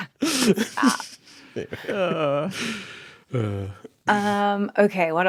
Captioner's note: group laughing